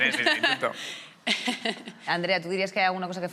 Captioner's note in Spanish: algunos ríen